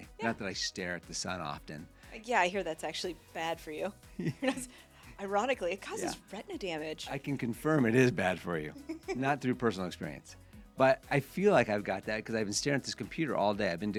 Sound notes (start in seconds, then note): 4.2 laughs